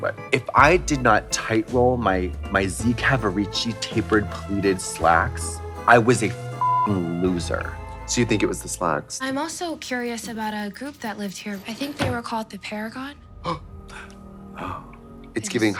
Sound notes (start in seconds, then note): 6.6 beep; 9.4 dramatic music; 13.6 Katya gasps; 13.6 Trixie pants